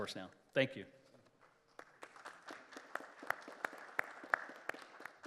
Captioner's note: applause